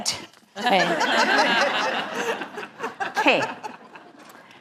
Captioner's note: laugh